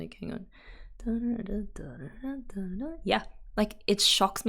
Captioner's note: hums tune